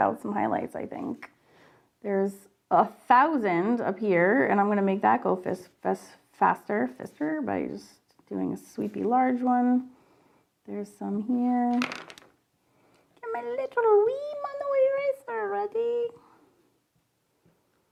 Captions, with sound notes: out some highlights, I think. There's a thousand up here and I'm gonna make that go faster. Just very light, just doing this sweepy large one. There's some here. (pencils clattering) (speaking high pitched gibberish)